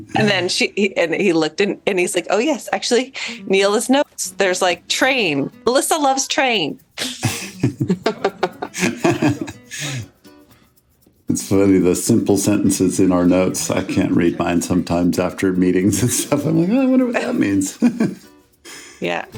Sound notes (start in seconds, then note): 7.0 laugh; 16.9 chuckles